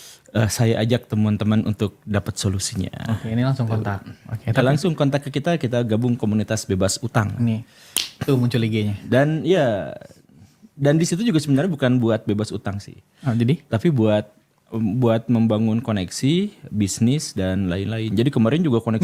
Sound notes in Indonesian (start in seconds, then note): 4.7 berdehem